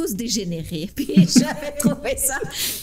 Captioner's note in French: Rires